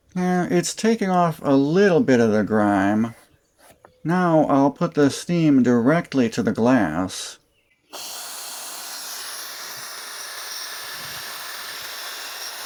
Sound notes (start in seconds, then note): 7.9 hissing sound